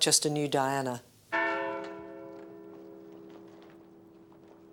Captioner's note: bell tolling